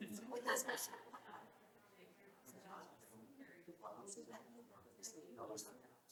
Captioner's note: audience continues chattering